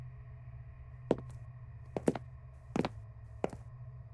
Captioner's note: footsteps thudding